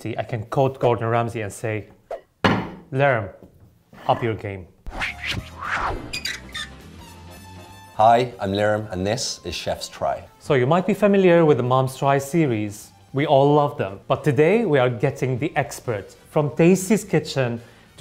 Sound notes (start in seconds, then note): 4.8 whooshing; 4.9 upbeat music